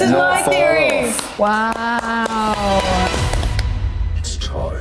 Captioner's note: Maya clapping; voiceover